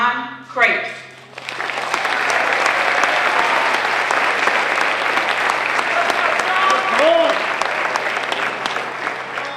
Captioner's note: applause